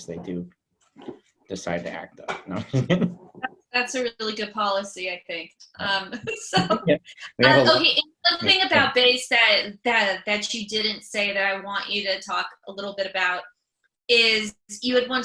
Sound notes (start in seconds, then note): 2.5 chuckles; 7.2 laughs